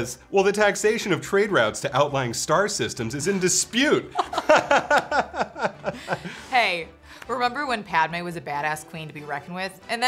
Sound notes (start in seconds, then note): 4.1 hosts laughing